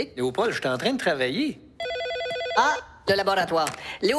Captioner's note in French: sonnerie de téléphone